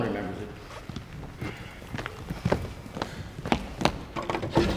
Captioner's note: footsteps entering; drawer opens